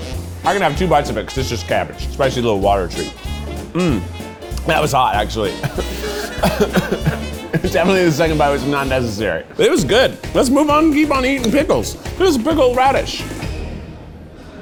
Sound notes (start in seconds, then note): 5.5 coughs